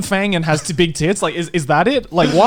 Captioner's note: laughs